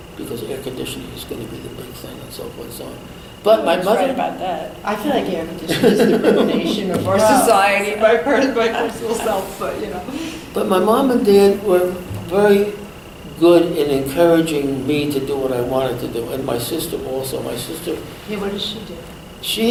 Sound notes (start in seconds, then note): 10.0 laughs